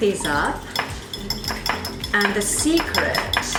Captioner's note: whisking